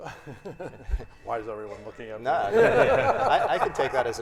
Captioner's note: panelists laughing